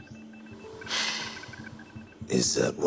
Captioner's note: sighs